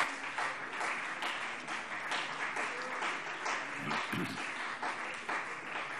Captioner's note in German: Beifall CDU und BÜNDNIS 90/DIE GRÜNEN